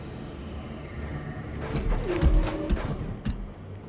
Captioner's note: thud sound